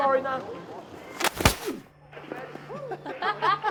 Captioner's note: bag thudding; group laughing